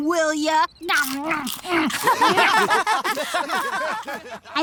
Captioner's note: all laugh